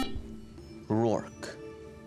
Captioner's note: buzzer